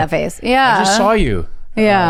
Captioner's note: chuckles